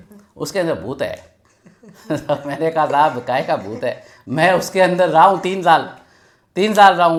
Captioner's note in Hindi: हंसी